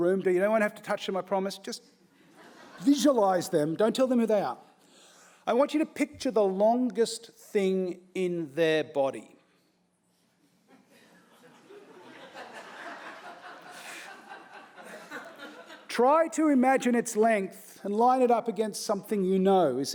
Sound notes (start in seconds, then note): 2.2 audience laughing; 10.9 audience laughing